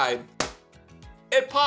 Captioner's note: loud pop